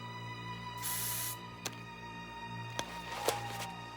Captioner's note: spraying